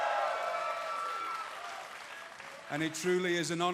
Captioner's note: cheers & applause